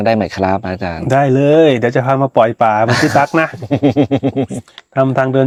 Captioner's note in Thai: เสียงหัวเราะ